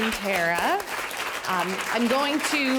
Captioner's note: audience clapping